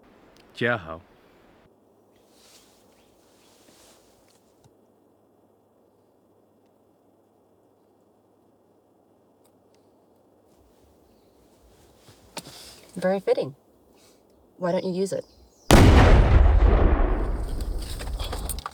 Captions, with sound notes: Jia-hau. Very fitting. Why don't you use it? [Loud explosion]